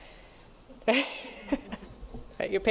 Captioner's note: laughter